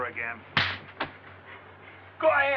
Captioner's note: slaps